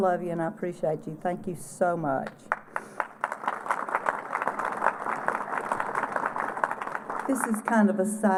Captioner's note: applause